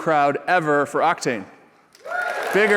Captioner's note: cheers and applause